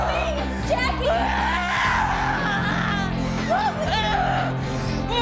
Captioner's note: shrieking